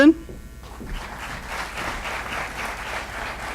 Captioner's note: applause